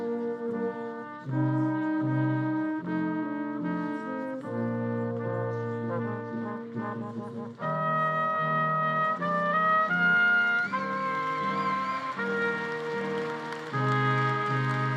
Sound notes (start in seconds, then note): 9.7 attendees applauding and cheering